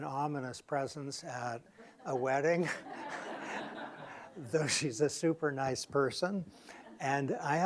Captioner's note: laughter